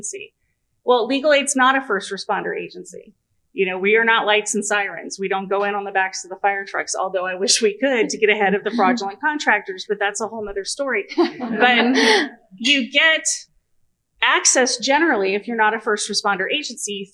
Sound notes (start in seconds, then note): 11.1 laughter